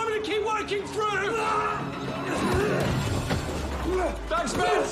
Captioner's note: grunting; shouts